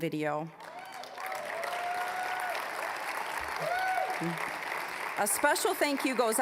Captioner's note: applause